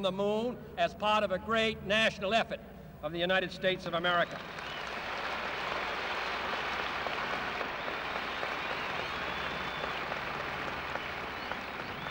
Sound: applause

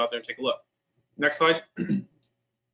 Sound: clears throat

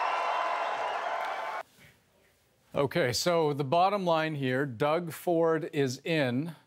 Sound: cheers and Applause

